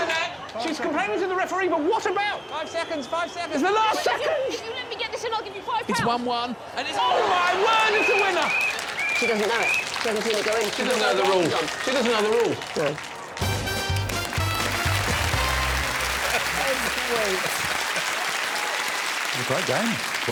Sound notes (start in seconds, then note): 15.0 audience applauding; 15.0 up-tempo music